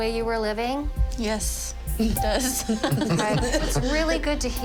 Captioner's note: chuckling